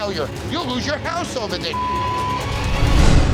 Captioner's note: beep